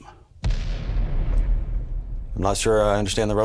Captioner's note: bomb thundering